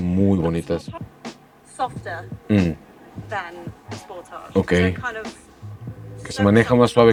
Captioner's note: woman speaking in English